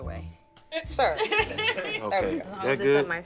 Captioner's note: laughter